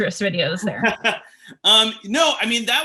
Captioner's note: laughing